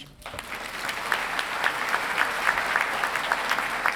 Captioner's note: audience applauding